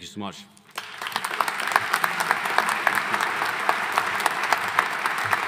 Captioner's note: audience applauding